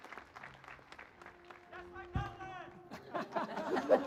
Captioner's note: cheers and Applause